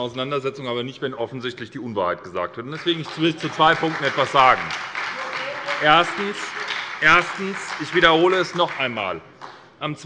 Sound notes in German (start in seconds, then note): 2.7 Beifall bei der SPD